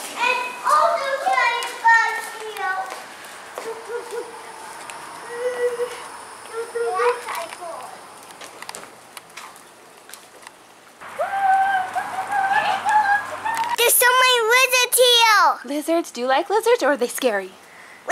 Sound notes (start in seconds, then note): 0.3 babbling; 5.0 owl hooting